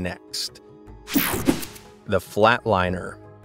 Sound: digital buzzing

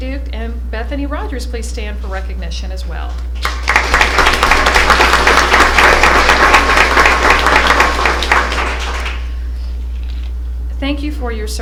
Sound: applause

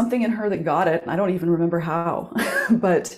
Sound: chuckles

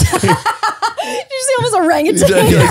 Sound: laughs

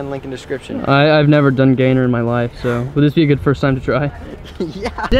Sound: Sarcastic

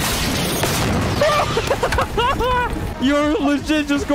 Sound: laughing

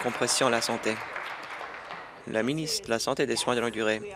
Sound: applause

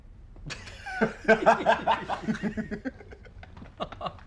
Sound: laughs

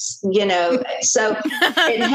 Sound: laughter

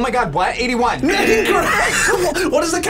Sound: laughs

